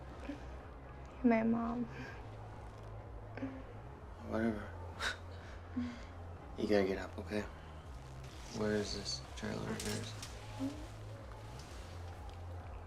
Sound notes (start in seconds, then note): 1.8 chuckles; 5.2 chuckles